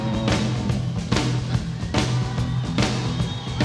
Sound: audience cheers

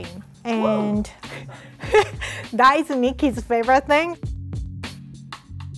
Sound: laughing; faint upbeat music

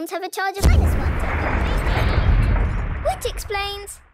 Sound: distant explosion

